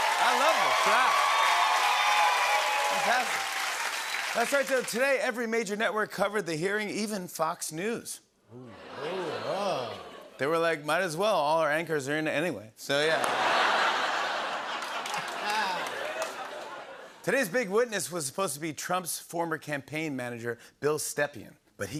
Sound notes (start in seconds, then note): 0.0 cheers and applause; 8.6 audience "Oohs"; 13.1 laughter